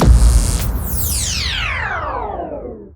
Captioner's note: laser whoosh